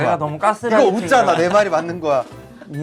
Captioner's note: genuine laughter instead of answering